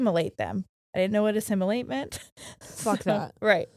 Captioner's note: chuckles